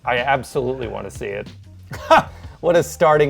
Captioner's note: laughs